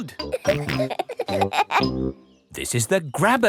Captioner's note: peppa and george laughing